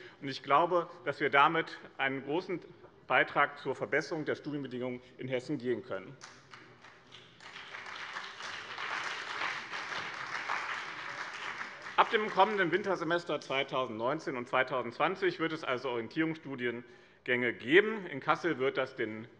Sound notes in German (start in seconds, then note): 6.2 Beifall bei dem BÜNDNIS 90/DIE GRÜNEN und der CDU